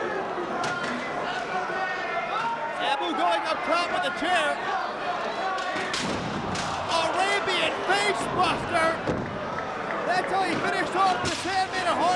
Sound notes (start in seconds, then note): 6.5 spectators exclaiming